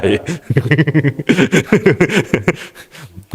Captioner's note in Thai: เสียงหัวเราะ